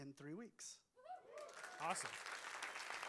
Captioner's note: applause